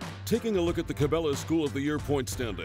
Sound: voiceover

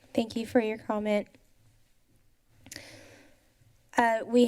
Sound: pause

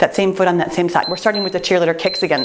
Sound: timer beeps

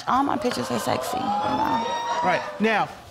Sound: audience exclaiming

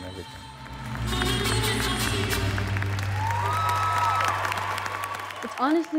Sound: cheers and applause

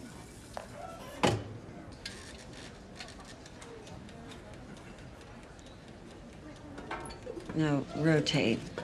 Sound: hinge squeaking and clang

